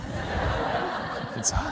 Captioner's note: laughter